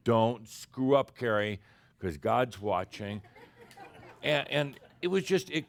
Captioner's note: a few chuckles